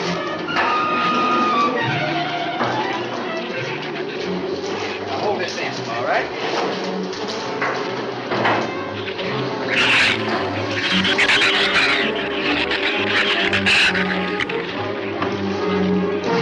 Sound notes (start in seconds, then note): 0.1 dramatic music continues; 9.6 shrews snarl and chatter